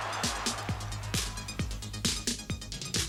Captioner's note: crowd cheering